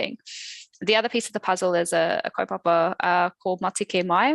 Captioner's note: non-english speech